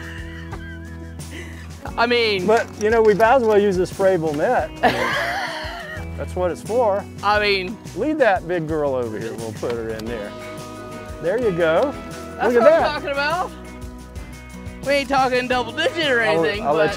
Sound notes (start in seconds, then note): 0.0 laughs; 4.8 laughs